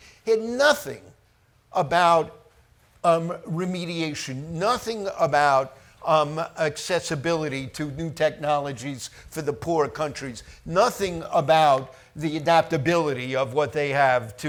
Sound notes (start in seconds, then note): none